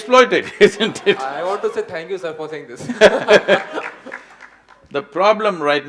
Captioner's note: both laugh